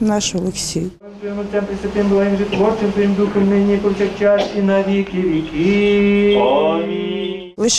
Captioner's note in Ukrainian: звучить молитва за померлих